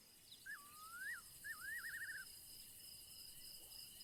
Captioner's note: crickets chirping